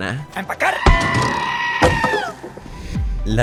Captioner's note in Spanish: Grito de Cabra